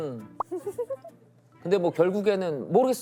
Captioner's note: laughs